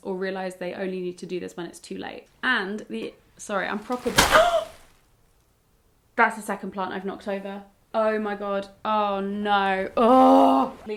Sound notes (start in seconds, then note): 3.7 plant thudding; 4.2 gasping